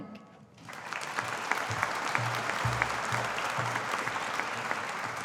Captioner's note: audience applauding